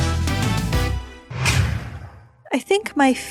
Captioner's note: stamp woosh